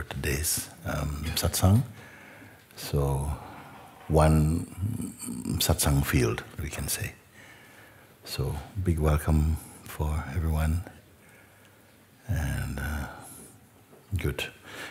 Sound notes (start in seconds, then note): none